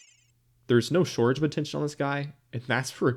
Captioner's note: twinkle sfx